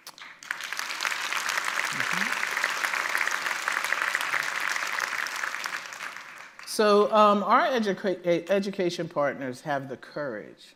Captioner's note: applause